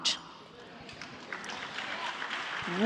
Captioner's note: applause